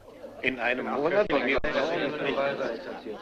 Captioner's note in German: Gemurmel